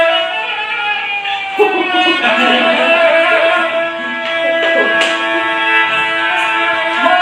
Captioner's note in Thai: ปรบมือ